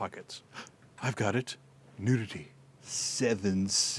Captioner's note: gasps